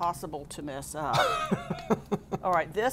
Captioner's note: laughing